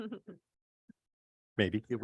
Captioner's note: person laughing